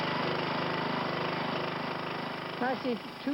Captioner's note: engine revs